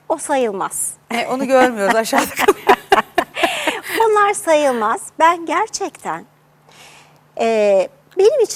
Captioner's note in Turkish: kahkaha